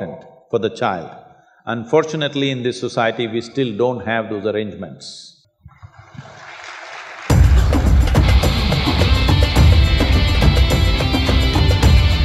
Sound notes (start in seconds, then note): 5.8 applause